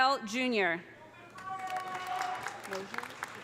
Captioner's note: audience applauding; audience cheering